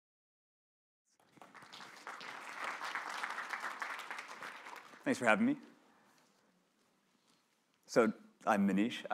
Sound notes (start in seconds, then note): 1.1 applause